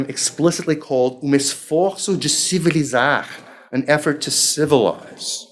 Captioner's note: speaking foreign language